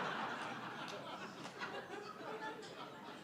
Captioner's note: laughter